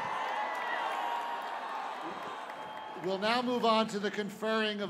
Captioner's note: cheers